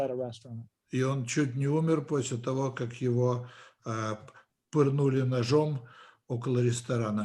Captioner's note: translator speaking Russian language